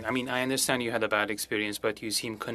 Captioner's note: speaking french